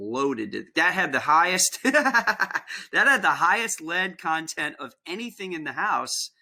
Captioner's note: laughter